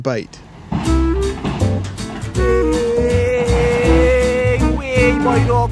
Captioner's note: yelling